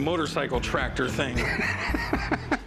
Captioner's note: laughs